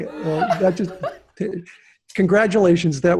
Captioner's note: laughs